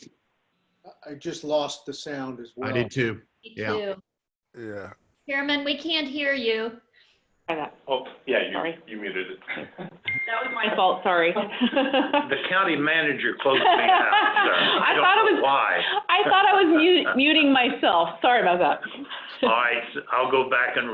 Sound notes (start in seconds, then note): 16.3 laughter